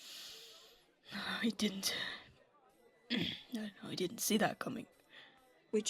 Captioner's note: James clears his throat